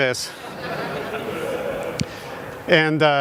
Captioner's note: audience laughing